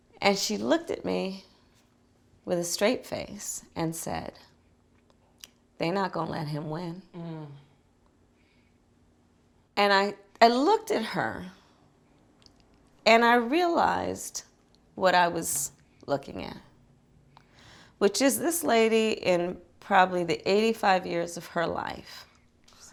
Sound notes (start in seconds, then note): 7.1 moans